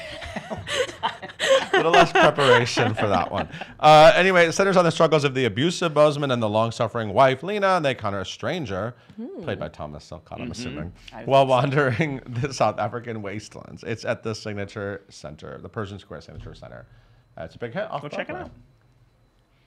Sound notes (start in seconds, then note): 0.0 laughing